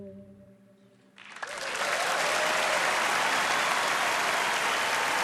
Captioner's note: song ends gently; cheering and applause